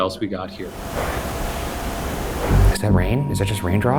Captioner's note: mysterious tapping